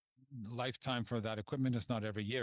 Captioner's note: speaking French